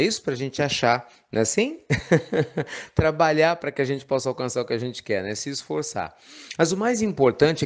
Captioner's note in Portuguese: Risos